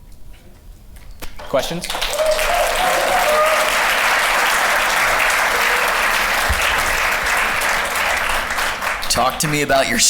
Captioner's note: applause